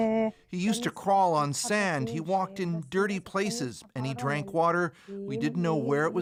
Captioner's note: speaking alternate language